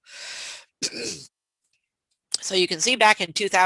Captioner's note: clears throat